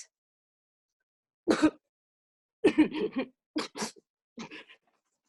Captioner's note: coughing painfully